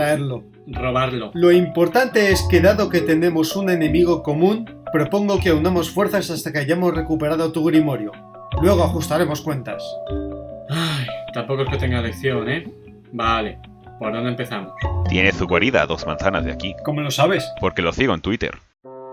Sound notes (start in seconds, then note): 10.6 sigh